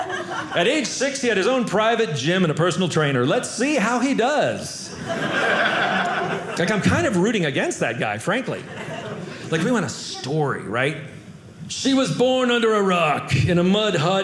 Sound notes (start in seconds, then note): 4.9 audience laughing